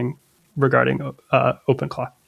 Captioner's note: uh